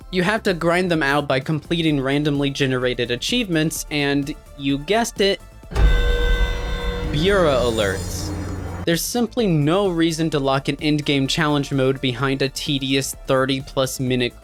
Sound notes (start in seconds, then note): 5.7 alert sound